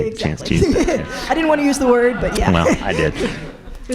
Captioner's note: chuckles